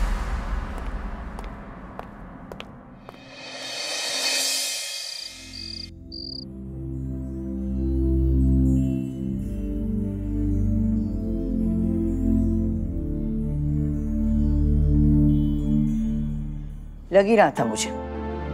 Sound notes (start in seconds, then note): 2.4 footstep; 4.0 crickets chirping; 7.7 sombre music plays